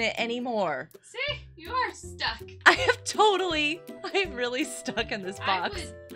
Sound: laughter

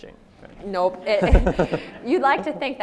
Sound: audience laughs

